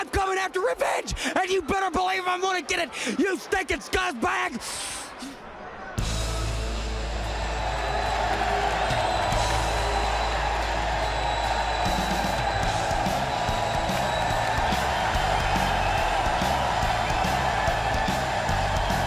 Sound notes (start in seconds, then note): 7.6 crowd cheering